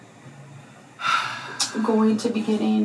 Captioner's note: sighs